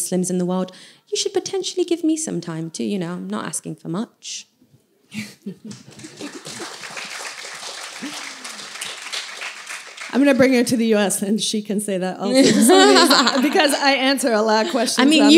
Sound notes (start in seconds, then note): 8.9 applause